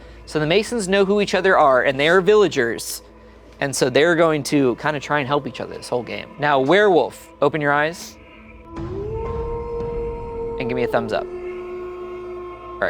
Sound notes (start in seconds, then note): 8.4 wolf howling